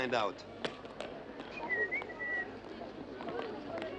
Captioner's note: whistling